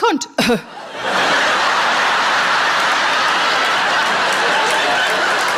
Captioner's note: coughing; laughing